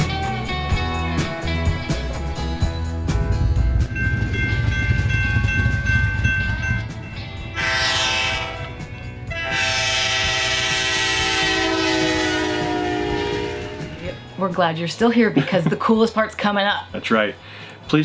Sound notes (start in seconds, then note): 3.8 train bells ringing; 9.2 train honking